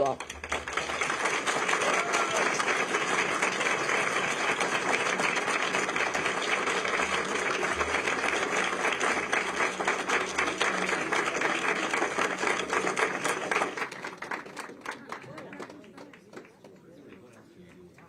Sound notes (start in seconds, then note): 6.2 applause